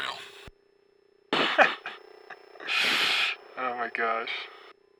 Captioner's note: laughing